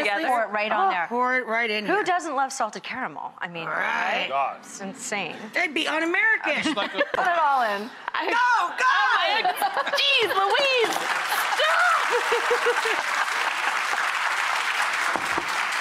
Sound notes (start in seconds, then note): 10.9 laughter; 12.5 applause